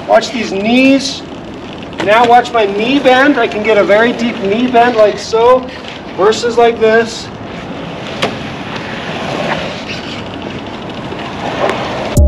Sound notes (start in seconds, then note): 8.7 wheels creaking